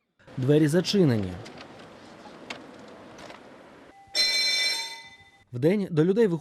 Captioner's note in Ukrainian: Дзвонить у дзвінок